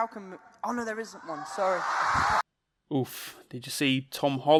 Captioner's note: audience roars